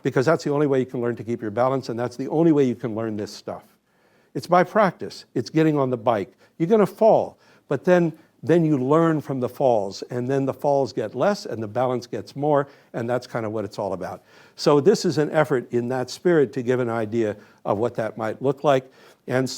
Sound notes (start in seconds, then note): none